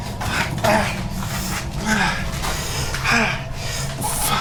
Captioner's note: Miles groans